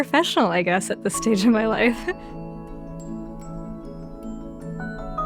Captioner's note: laughing